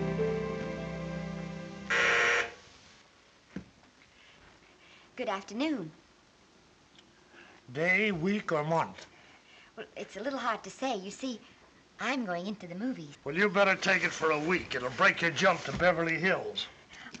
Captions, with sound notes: [bell buzzes] Good afternoon. Day, week or month? Well, it's a little hard to say. You see, I'm going into the movies. Well, you better take it for a week. It'll break your jump to Beverly Hills.